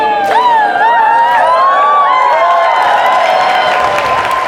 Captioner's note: laughter and cheers